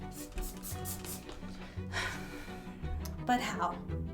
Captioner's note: liquid spraying